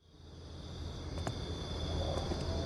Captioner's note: crickets